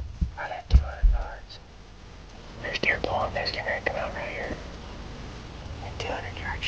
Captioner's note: whispering